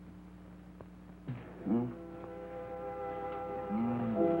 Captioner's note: Doug moaning; soft instrumental music